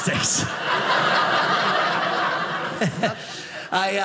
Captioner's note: audience laughing